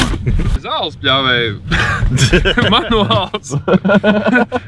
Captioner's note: laughs